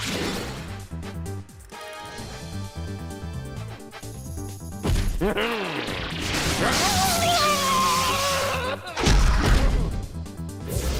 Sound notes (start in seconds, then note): 5.2 chuckles; 5.8 blast; 6.9 howls; 9.9 whoosh